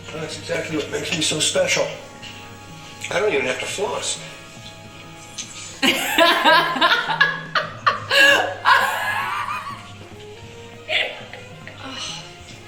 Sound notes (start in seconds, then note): 5.6 laughs